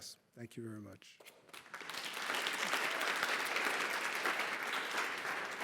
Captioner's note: applause